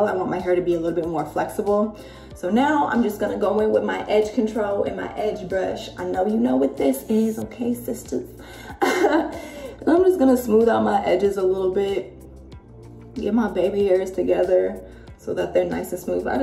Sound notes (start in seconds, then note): 8.6 chuckles